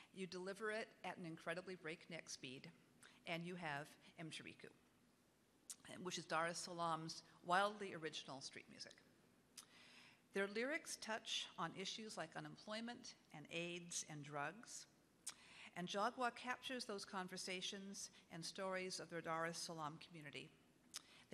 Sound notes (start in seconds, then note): none